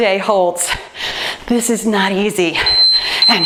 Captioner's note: timer beeps